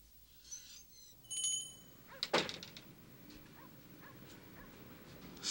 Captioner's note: cash register cranking; doorbell chimes